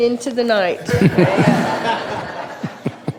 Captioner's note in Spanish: risas